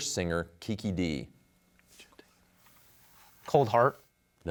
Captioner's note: whispers